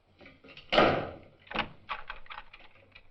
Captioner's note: lock clicks shut